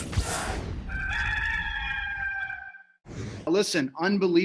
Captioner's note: electronic air whooshes; rooster crows; air whooshes